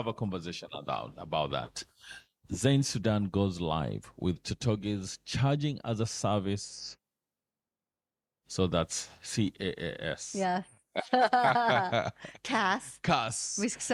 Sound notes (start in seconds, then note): 11.0 laughing